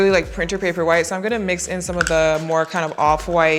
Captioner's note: lid clatters